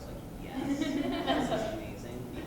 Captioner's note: laughter